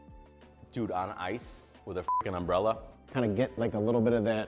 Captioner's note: beep